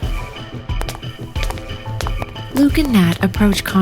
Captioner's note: footsteps